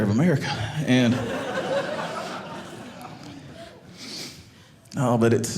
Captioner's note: audience laughing